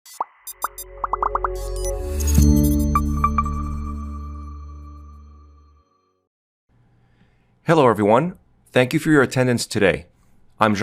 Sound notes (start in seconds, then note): 0.6 bright music; 1.0 bubbles popping